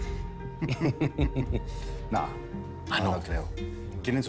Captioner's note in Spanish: Risas